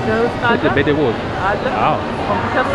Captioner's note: amharic